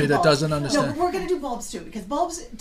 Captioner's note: voiceover